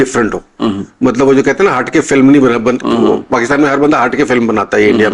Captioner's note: clears throat